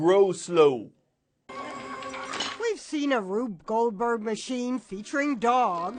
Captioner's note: voice-over